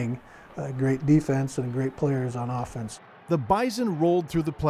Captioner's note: laughs